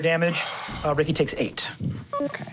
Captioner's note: computer beeps; engine powering down